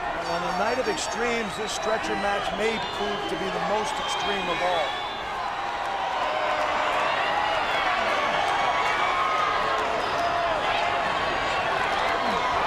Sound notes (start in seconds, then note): 8.0 crowd cheering